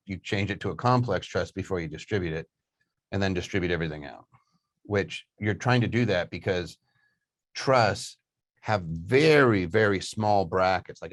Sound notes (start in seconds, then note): none